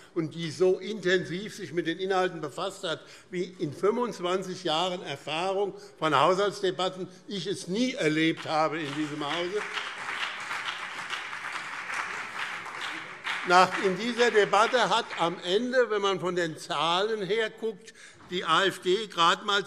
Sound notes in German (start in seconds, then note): 8.1 Beifall BÜNDNIS 90/DIE GRÜNEN und CDU